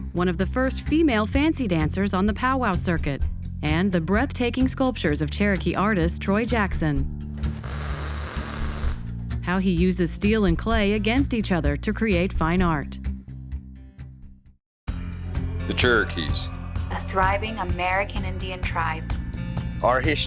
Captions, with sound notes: one of the first female fancy dancers on the powwow circuit. And the breathtaking sculptures of Cherokee artist Troy Jackson. (Sparks sizzle) How he uses steel and clay against each other to create fine art. (Theme music begins) MAN 1>> The Cherokees. WOMAN 1>> A thriving American Indian tribe.